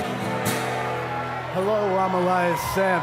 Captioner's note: cheers and boos